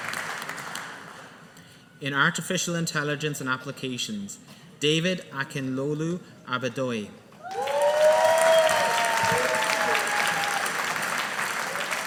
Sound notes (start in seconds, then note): 7.4 audience applauding